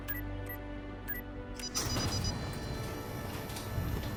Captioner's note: machine beeping